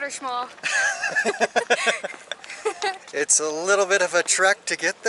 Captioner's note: laughter